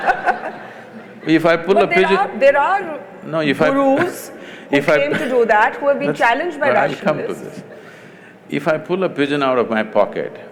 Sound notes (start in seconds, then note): 3.8 laughs